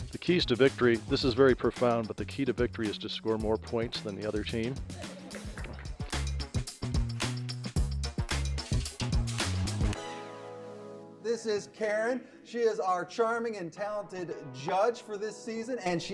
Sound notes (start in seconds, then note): 4.9 everyone laughs; 6.6 upbeat music